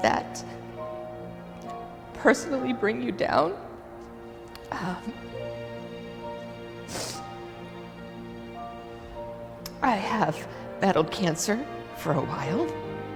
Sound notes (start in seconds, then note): 6.7 sniffles